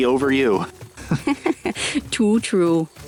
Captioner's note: both chuckle